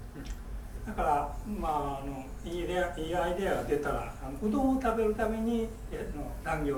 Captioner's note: speaking in foreign language